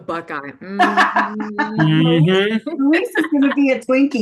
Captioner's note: laughing